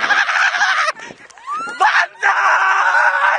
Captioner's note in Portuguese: As meninas gritam